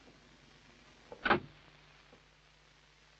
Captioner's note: door Closes